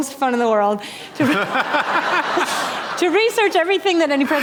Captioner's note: laughter